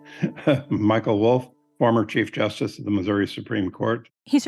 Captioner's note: chuckles